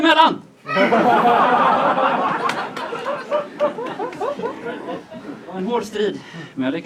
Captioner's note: laughter